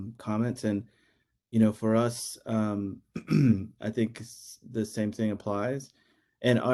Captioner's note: cough